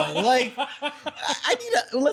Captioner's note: laughing